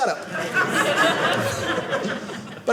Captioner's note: audience laughing